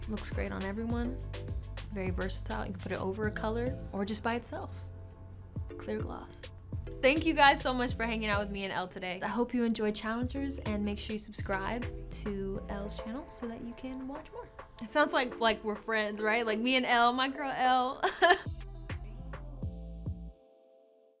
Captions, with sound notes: Looks great on everyone, very versatile. You can put it over a color, or just by itself. Clear gloss. Thank you, guys, so much for hanging out with me and "ELLE" today. I hope you enjoy "Challengers", and make sure you subscribe to ELLE'S channel so that you can watch more. It sounds like we're friends, right? Like, me and "ELLE". My girl, "ELLE". (giggles) (mellow music)